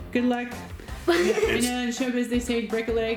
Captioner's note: laughs